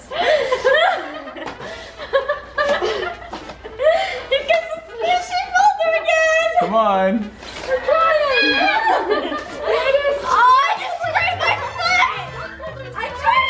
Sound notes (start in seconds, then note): 0.0 family laughs; 7.7 girls scream